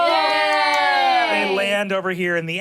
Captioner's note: cheers and clapping